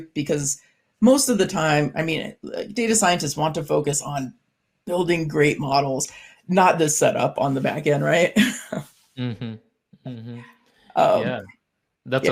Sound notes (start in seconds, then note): 9.2 chuckles